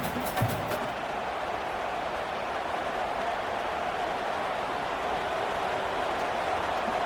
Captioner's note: crowd cheering